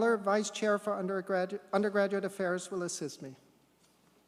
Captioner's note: none